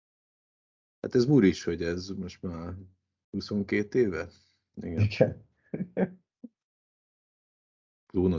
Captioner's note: laughter